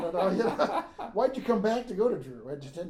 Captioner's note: laughing